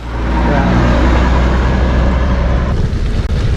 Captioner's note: truck roars